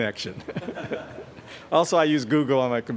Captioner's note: laughter